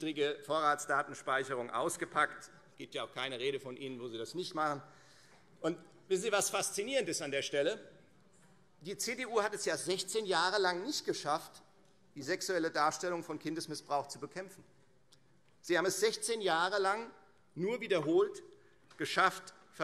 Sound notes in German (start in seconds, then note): none